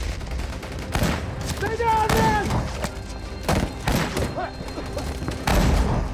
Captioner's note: gunshots